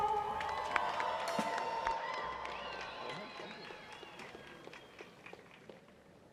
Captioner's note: cheering